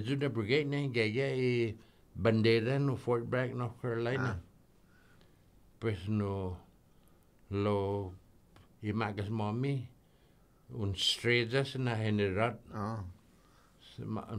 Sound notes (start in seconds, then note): none